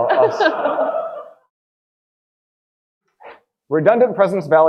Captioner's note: audience laughing